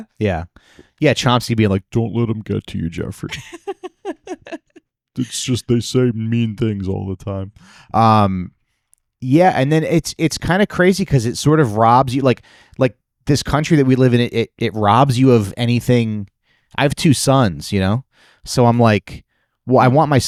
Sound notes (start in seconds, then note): 3.3 laughing